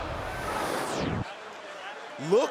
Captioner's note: crowd cheering